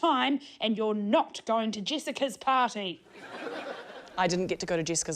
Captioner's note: laughter